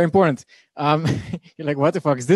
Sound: laughing

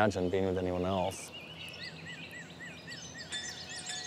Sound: birds chirping; wind chime chiming

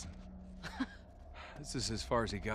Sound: laugh

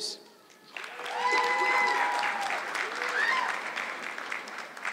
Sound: audience clapping

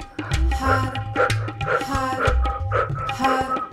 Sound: loud breathing

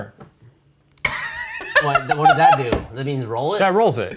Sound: all laughing

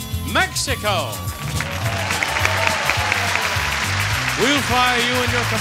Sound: audience cheering and clapping

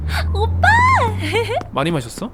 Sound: giggles

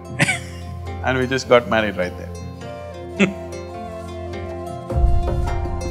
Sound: laughs; laughs

